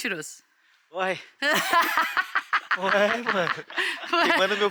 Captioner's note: laughs